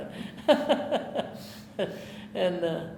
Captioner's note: laughing